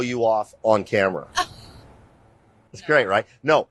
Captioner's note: chuckles